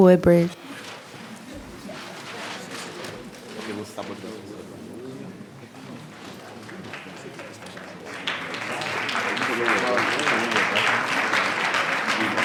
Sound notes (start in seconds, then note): 2.0 speaking faintly; 7.5 attendees clapping